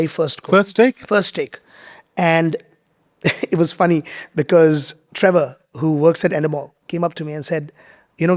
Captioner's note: chuckles